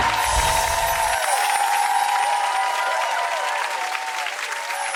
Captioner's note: audience clapping